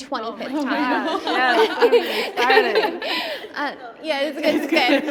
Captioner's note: laughter